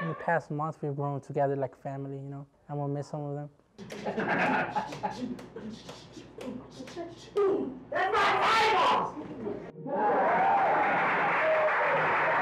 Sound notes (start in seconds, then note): 2.0 audience laughing